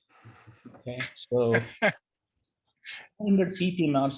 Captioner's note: laughs